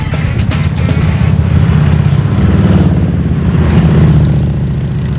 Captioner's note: engines rumble